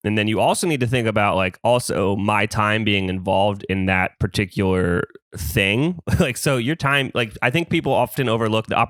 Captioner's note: laughs